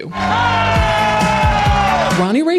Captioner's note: Michael Jackson impersonator yelling